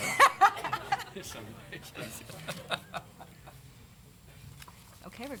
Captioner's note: laughter